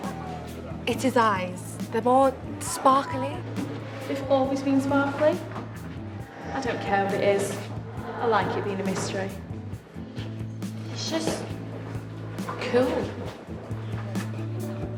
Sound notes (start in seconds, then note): none